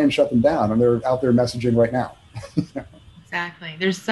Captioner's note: chuckles